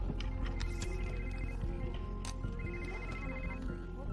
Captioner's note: cell phone ringing